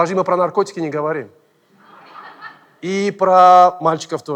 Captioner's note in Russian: смех